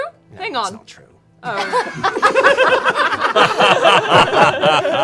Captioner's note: laughter